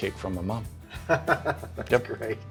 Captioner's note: laughs